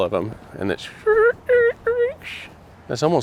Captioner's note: squeaking